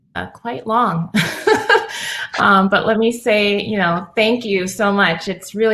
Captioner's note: laugh